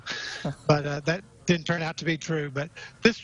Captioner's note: laughing